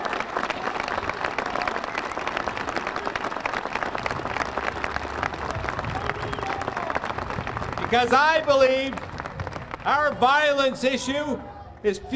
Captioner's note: applause